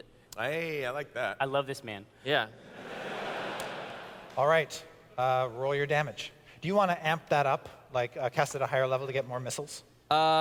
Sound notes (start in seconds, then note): 2.6 laughter